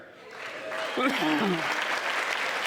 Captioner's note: cheering and applause